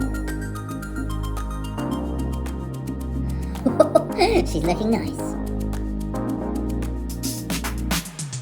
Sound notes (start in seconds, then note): 3.6 chuckles; 5.4 upbeat music